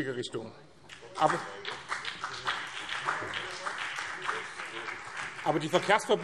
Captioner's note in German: Beifall BÜNDNIS 90/DIE GRÜNEN